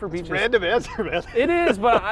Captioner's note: laughs